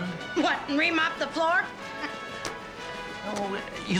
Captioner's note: chuckles